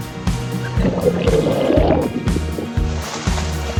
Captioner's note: bubbles gurgling